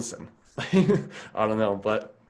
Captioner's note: laughs